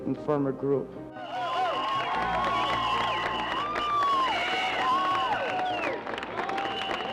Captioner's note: supporters clap and cheer on the protesters